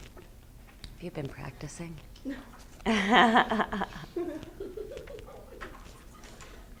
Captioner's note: laughs